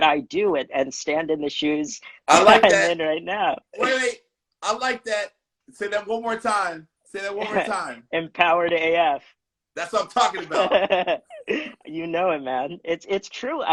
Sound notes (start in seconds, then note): 9.9 laughs